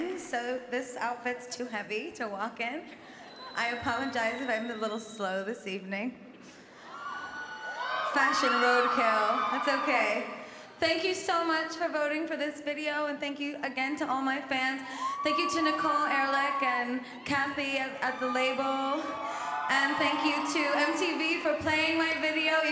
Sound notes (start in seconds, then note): 6.8 cheering